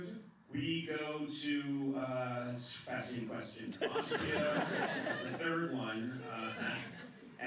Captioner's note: laughter